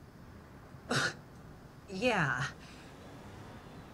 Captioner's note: scoffs